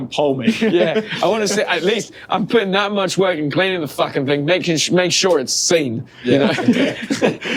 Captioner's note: laughter